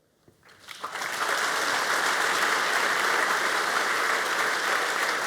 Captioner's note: applause